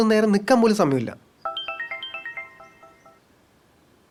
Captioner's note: mobile rings